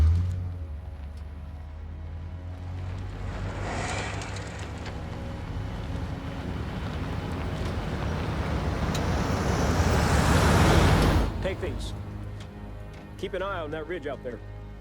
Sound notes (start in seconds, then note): 0.2 engine starting; 3.1 Humvee rumbling